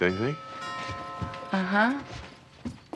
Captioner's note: doorbell chimes